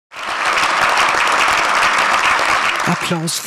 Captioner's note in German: Applaus